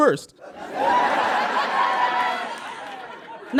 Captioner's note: audience laughs uproariously